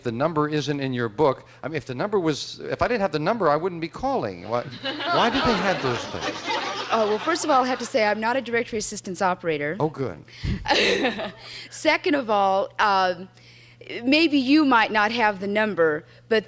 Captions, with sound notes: if the number isn't in your book, I mean if the number was-- if I didn't have the number, I wouldn't be calling. Why did they have those things? -Well, first of all, I have to say, I'm not a directory assistance operator. -Oh, good. -(laughs) Second of all, maybe you might not have the number,